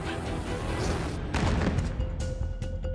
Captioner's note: thuds